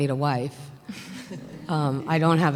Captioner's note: laughter